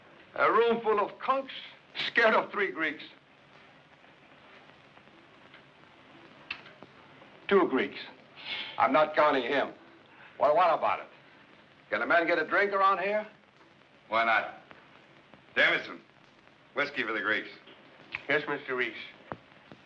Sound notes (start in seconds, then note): none